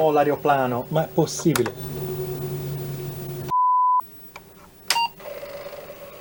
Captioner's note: speaking in foreign language; beep